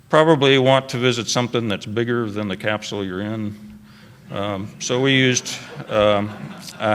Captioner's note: laughter